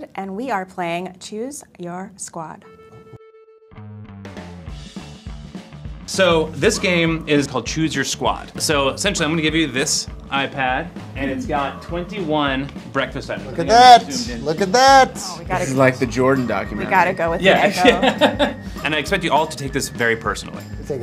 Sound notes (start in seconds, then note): 17.7 laughter